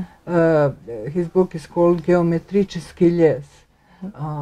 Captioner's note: speaks Russian